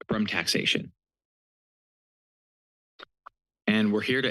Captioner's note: pause